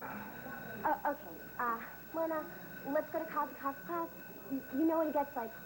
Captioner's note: bell rings